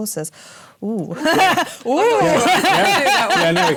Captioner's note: laughs